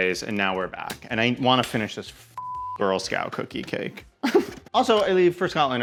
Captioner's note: beep